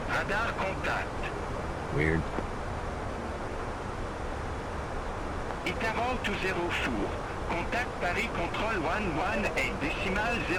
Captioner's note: radio chatter